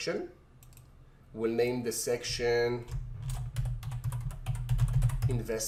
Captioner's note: keyboard typing